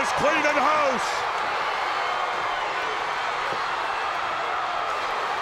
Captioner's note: crowd cheering